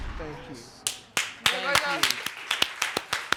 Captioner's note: audience applauds